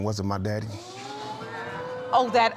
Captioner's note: audience exclaims